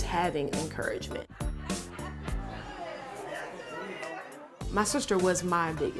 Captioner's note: family laughing